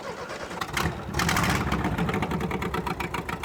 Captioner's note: engine revving